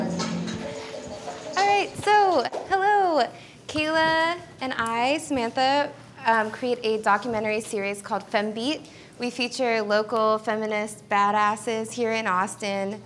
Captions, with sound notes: - (laughs) All right, so, hello! Kayla and I, Samantha, create a documentary series called FemBeat. We feature local feminists, bad asses, here in Austin,